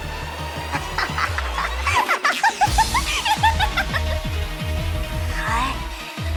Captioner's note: weird laughter